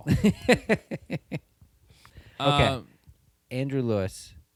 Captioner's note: laughter